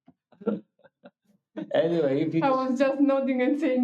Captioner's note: laughing